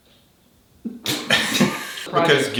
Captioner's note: both laughing